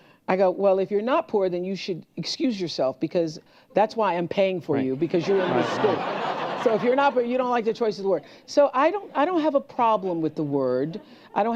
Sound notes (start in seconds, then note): 4.9 laughter